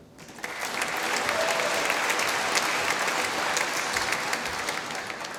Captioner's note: applause